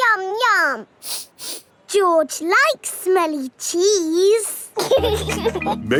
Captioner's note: sniffs; laughing